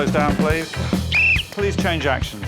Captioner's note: blows whistle; sounds horn